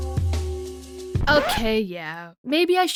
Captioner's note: record scratch